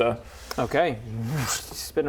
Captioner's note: whoosh